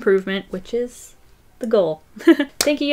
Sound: laughs

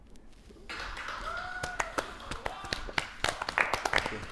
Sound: Sidemen applauding

